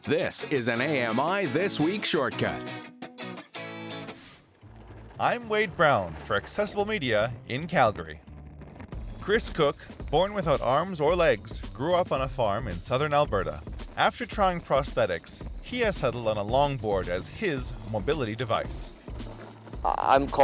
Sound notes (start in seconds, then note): 0.3 voiceover; 4.3 longboard rolling; 6.0 voiceover